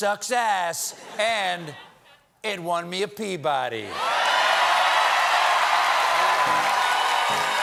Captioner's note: cheers and applause